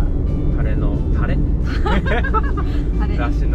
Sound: laughs

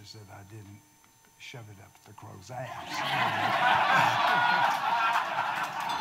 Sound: audience laughing

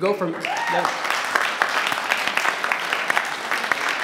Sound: audience cheers

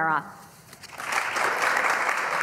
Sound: applause

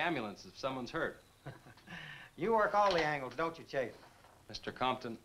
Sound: chuckles

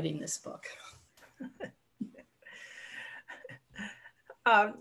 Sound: laughs

